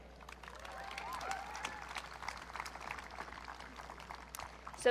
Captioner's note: audience cheering